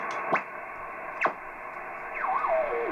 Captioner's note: static howling; random beeps; beeps modulating